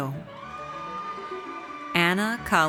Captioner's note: audience cheers